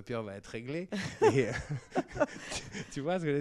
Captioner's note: laughs